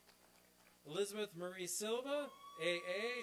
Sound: applause

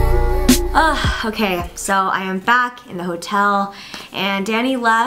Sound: sighs

